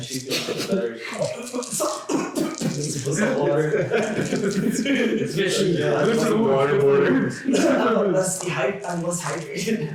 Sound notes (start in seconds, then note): 1.1 coughing; 2.7 more coughing